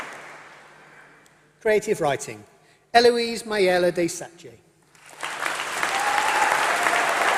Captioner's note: applause